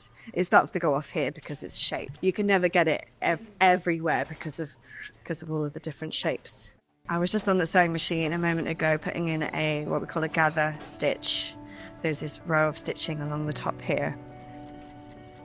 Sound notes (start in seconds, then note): none